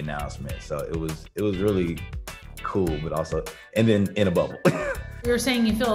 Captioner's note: laughs